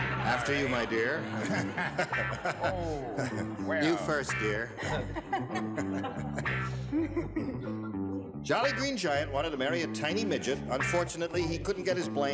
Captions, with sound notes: After you, my dear. [laughs] You first, dear. [audience laughs] Jolly Green Giant wanted to marry a tiny midget. Unfortunately he couldn't get his blank